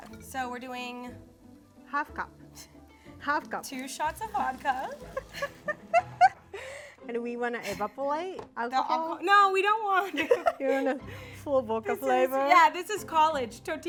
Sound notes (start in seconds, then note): 5.0 both laughing